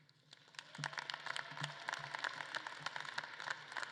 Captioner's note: audience claps